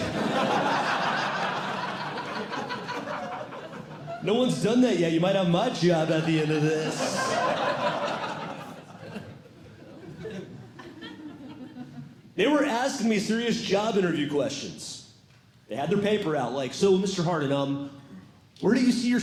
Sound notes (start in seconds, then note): 0.0 audience Laughing; 5.9 audience Laughing